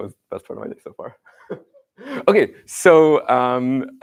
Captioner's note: laughter